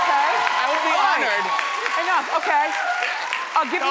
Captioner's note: audience cheering